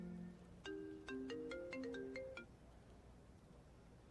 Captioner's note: phone ringing